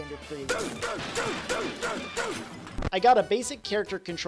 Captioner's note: grunts as he smashes the computer